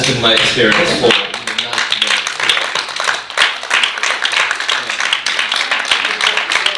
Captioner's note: audience applauding